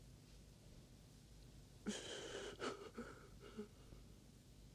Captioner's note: waah